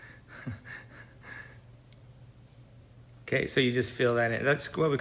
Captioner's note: laughs